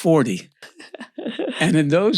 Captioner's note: laughs